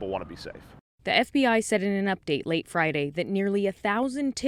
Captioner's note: voice-over